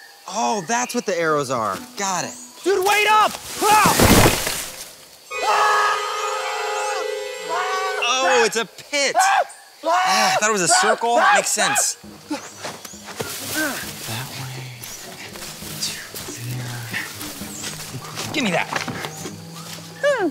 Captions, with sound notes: - Oh, that's what the arrows are, got it. - Dude, wait up! (yelling) - Oh, it's a pit. (screaming) Thought it was a circle. That makes sense. That way to get to there. Think we're goin' - Gimme that.